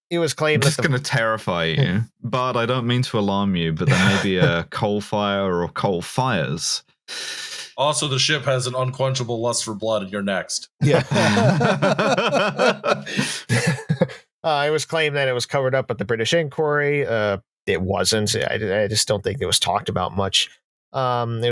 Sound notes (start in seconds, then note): 7.1 breathes in sharply; 10.8 laughter